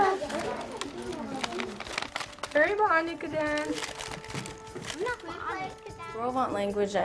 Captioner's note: foreign Language